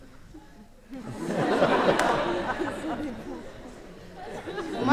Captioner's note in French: rires